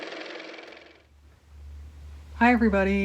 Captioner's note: car motor